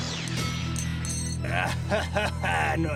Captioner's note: blast; clank